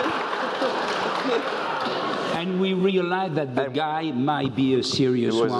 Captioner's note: laugh